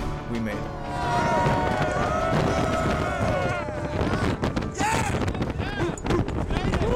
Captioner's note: cheers